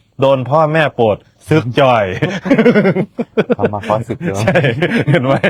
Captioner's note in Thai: เสียงหัวเราะ